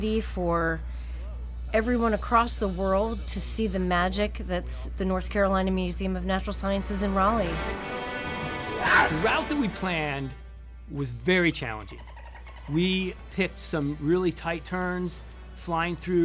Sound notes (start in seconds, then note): 8.5 cougar scream; 11.8 dolphin sound